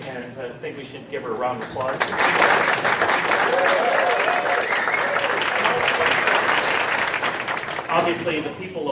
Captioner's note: crowd applause